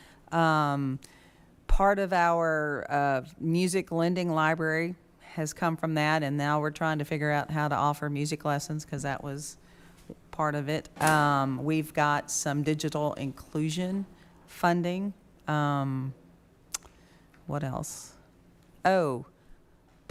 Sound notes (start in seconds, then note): none